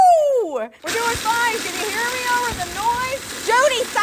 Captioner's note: food processor grinding